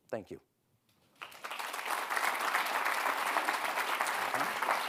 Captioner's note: audience applauding